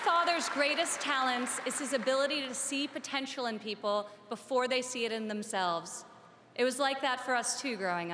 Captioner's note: applause